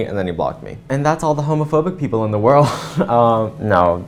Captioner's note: laugh